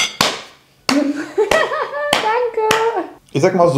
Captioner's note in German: lacht